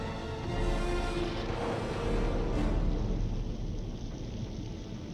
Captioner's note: storm rumbling